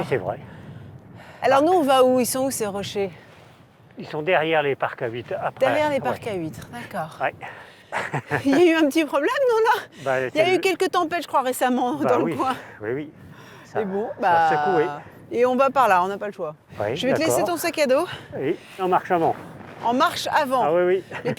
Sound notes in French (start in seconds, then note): 7.9 rires